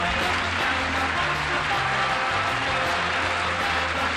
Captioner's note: applause; theme music